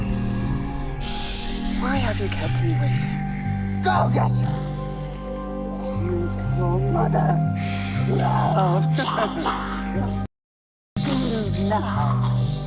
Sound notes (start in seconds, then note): 4.8 dramatic music; 8.5 laughing; 9.1 snake hissing